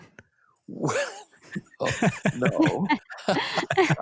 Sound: all laughing

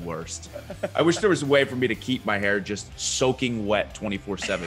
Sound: laugh

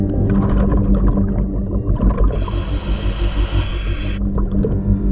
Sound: water bubbles; breaths in

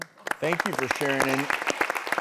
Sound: applause

